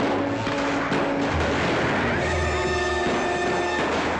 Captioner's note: commotion & gunshots; dramatic music; rifle fires; horse neighs; commotion & gunshots; dramatic music